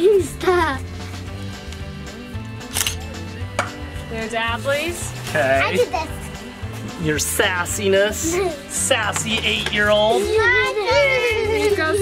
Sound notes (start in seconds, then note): 0.5 laughs; 2.9 camera shutter clicks; 10.8 both giggling